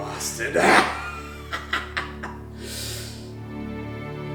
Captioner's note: laughing